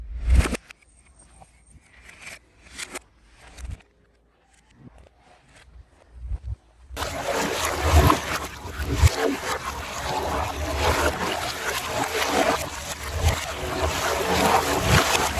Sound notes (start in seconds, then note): 6.9 water Splashing